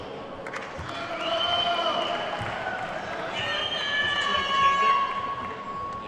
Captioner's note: attendees whooping and clapping